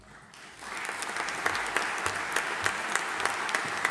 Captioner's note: audience applauding